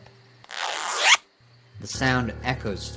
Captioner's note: zip thwacking